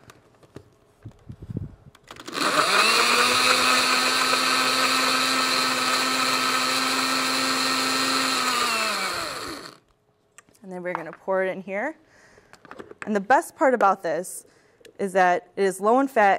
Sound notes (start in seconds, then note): 0.3 blender starts; 8.2 blender stops